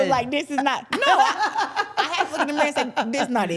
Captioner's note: everyone laughs